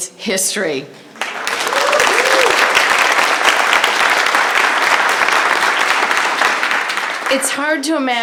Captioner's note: applause